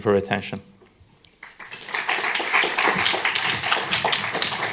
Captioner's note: applause